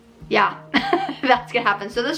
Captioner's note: laughs